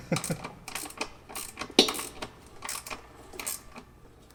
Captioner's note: ratchet clicking